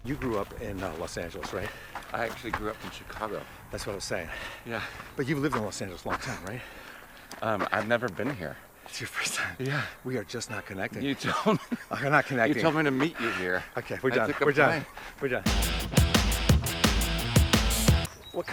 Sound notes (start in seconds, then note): 11.0 laughs; 15.4 upbeat rock music